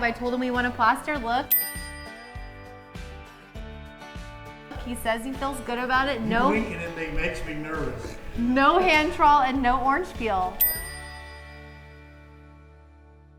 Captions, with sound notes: I told him we want a plaster look. (bell rings) He says he feels good about it. No. - Him winking at me makes me nervous. - No hand-trowel and no orange peel. (bell rings)